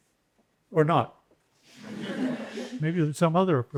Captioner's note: laughter